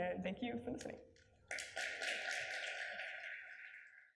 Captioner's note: applause